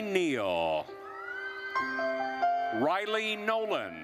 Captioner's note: attendees cheering